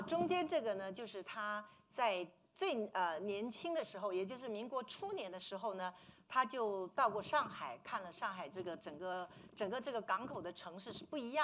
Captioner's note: speaking Mandarin